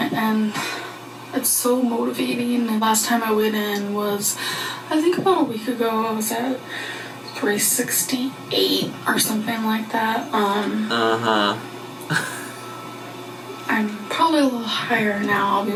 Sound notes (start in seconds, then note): 12.1 chuckles